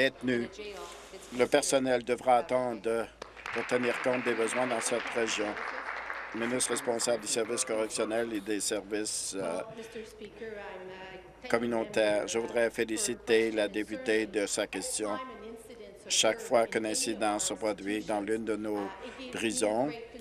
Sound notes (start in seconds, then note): 6.9 applause